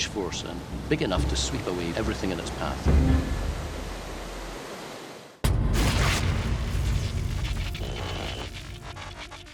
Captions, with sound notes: have a huge force and big enough to sweep away everything in its path. [thuds] [buzzing and crackling]